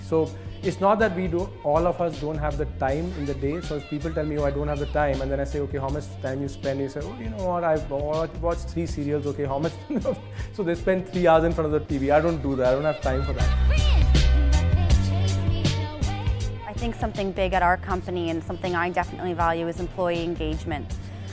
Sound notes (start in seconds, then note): 9.9 laughter; 13.9 upbeat music